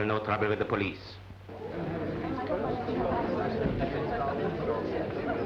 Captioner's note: people murmuring